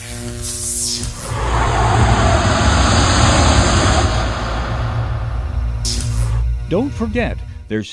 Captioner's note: sound Effects